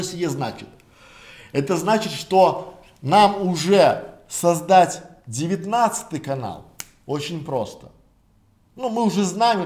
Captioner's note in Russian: щелчок пальцами